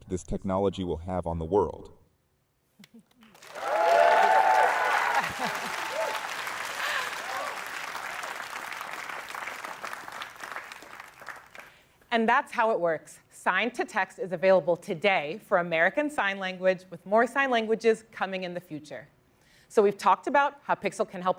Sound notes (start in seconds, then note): 3.2 cheering; 6.1 laughs; 6.6 applause